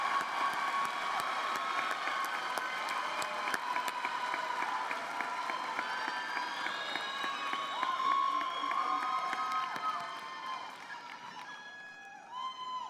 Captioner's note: applause